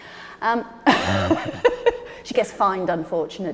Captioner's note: Ruth laughing